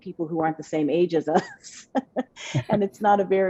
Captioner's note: laughs